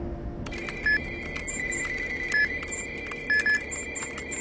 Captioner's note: electronic beeping